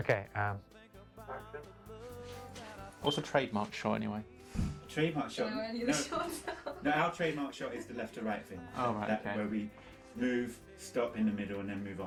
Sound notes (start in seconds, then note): 5.8 laughing